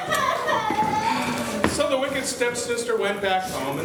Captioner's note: crying